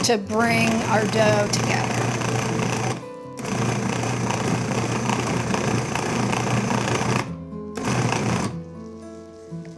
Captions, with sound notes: to bring our dough together. (food processor whirring) (gentle music continues)